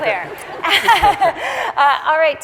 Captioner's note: audience laughing